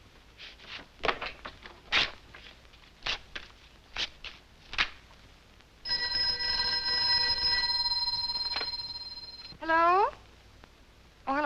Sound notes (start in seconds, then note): 5.8 phone ringing